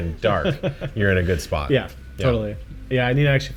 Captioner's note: laughing